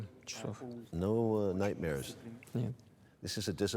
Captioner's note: speaks Russian